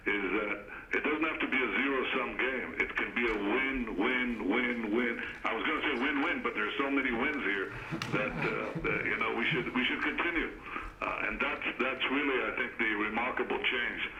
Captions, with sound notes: is that it doesn't have to be a zero-sum game. It can be a win, win, win, win. I was going to say win-win, but there's so many wins here that -- (laughter) -- that, you know, we should -- we should continue. And that's -- that's really, I think, the remarkable change